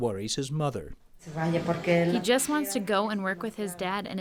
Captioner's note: through translator